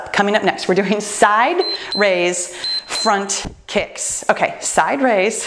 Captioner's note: timer beeps